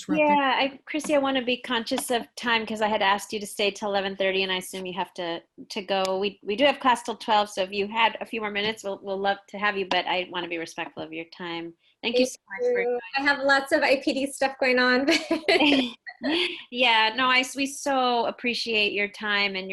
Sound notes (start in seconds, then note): 15.3 laughs